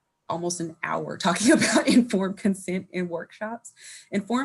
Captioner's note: laughing